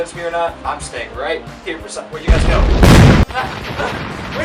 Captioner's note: explosion